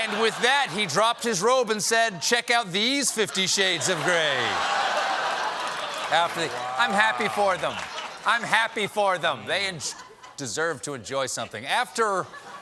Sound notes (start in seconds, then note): 6.1 laughter